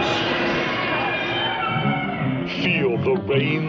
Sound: screaming

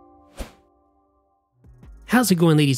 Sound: air whooshing

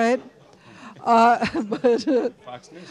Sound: laughter

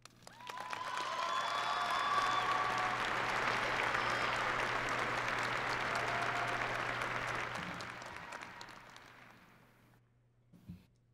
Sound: applause

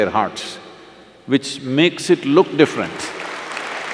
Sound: applause

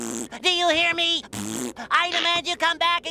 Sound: raspberry

